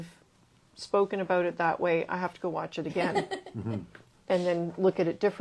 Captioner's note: laughs